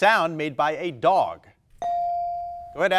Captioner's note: buzzer dinging